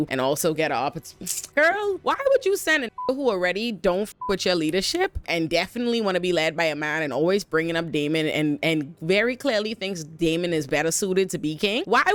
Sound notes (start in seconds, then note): 2.9 beep